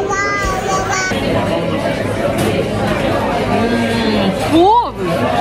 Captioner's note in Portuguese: ambiência de restaurante